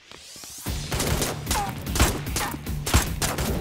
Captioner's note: Gunshots